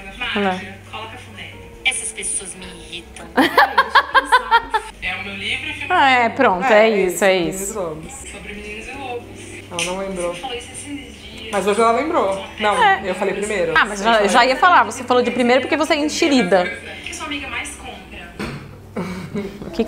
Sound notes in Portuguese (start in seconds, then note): 3.4 risos